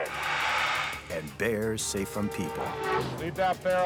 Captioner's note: bear growling; horn blaring